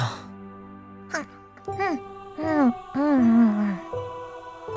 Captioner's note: nomming despite the circumstances